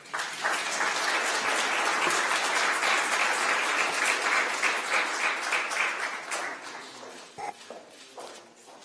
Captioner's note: applause